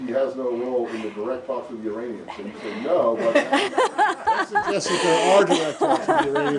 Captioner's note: laughter